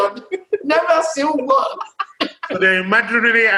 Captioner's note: laughs